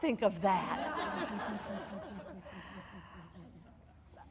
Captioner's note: audience laughing